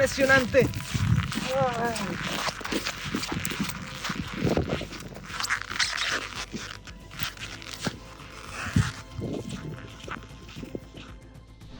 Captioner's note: footsteps in the snow